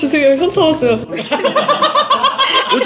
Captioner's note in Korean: 웃음소리